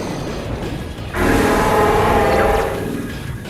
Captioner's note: scrap dragon growl